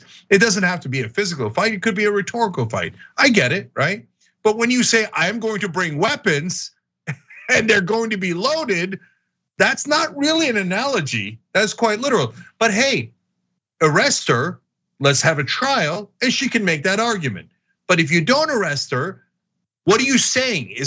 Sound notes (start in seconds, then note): 7.0 laugh